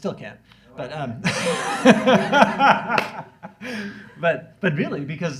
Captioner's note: laughs